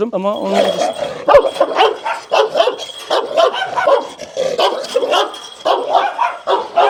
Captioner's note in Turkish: Havlama sesleri